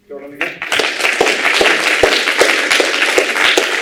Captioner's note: applause